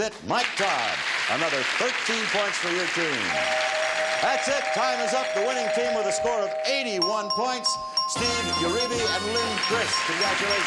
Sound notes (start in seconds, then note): 0.4 audience applauds; 3.3 bell rings